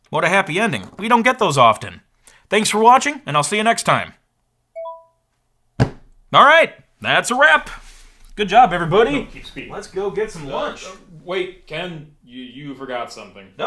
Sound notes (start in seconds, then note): 4.7 device dinging